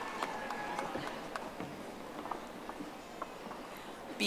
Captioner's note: audience applauding